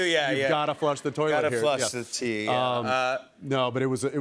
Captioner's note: none